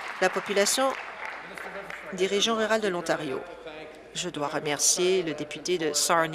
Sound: applause

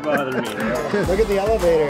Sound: laughing

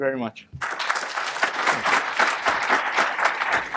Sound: applause

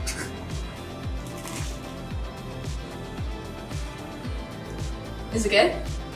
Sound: waffle sandwich crunching

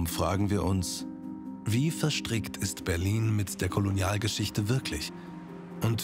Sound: German

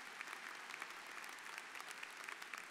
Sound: applause

